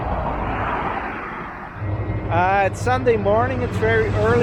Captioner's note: traffic noise in the background